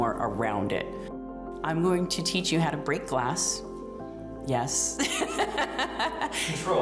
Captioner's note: laughs